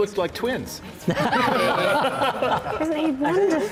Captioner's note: laughter